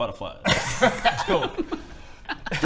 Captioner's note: laughs